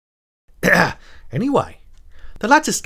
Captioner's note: ahem